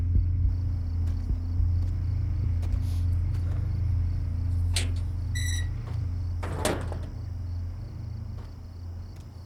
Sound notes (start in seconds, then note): 6.4 door creaking closed